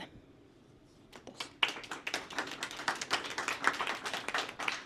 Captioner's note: applause